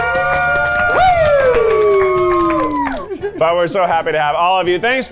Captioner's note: everyone cheering